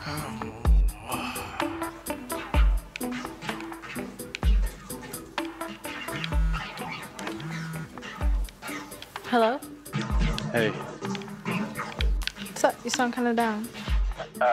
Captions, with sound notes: (Brandon groans) (guns zapping) (cellphone buzzing) - Hello? - Hey. (guns zapping) - What's up? You sound kinda down.